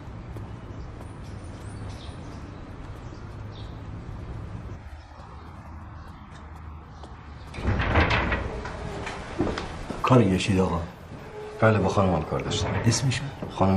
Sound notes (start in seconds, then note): 7.4 door opening